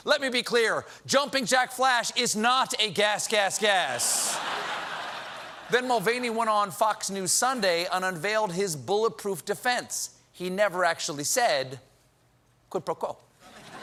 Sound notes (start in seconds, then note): 4.1 laughter